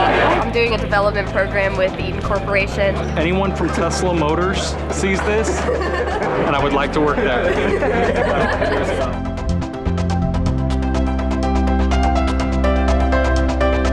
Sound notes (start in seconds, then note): 8.6 laughing; 9.4 instrumental music